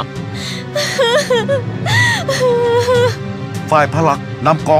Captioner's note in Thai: ร้องไห้; หัวเราะ